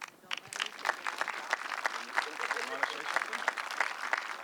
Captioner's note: audience clapping